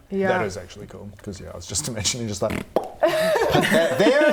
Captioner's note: pop